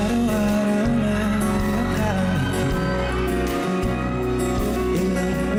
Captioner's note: audience cheering